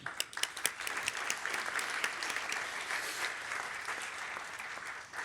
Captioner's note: applause